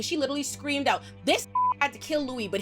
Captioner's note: beep